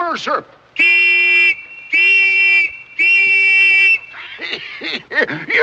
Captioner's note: shrill whistling